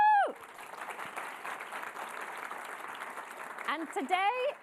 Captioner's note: audience clapping